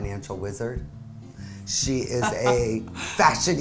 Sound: laughing

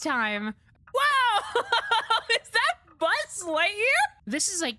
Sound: laughter

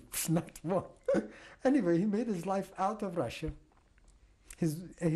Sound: laughs

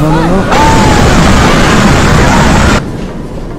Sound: scream in fear

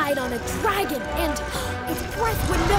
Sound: gasp

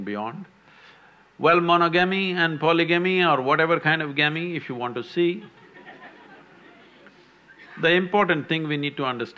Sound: few laugh

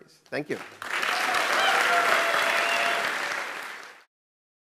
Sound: clapping

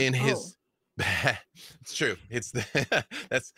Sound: chuckles; laughs

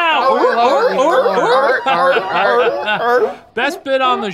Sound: all barking

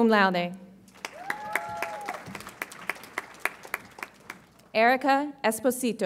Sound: audience applauds and cheers

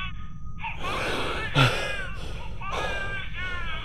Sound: baby crying over monitor; heavy breathing

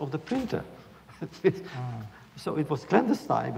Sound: laughs

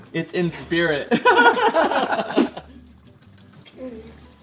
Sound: laughing

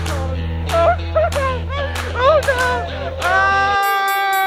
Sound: laughter

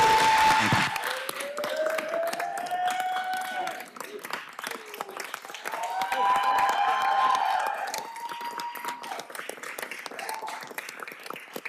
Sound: cheers and applause

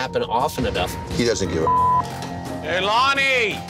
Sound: beep

